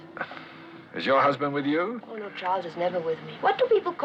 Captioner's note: sighs